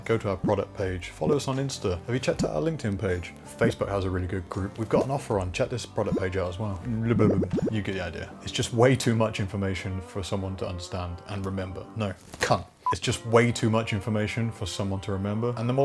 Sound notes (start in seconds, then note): 6.8 bubbling sound